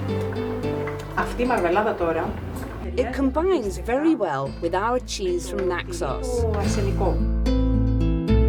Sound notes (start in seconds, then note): 0.5 Woman speaking Greek; 5.3 woman speaking Greek